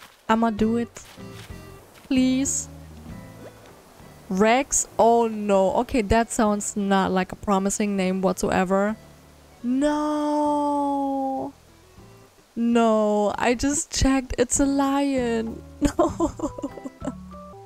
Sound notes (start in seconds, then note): 15.8 sad laugh